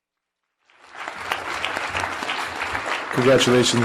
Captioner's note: audience clapping